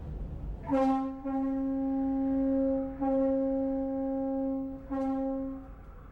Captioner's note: ship horn blowing